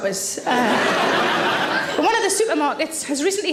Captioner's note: audience laughs